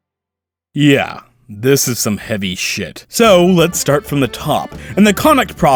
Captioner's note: exhale